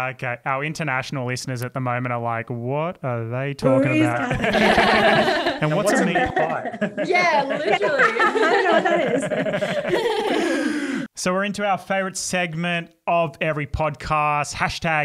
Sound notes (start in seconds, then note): 4.1 all laugh